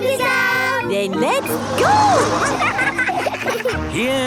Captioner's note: laughing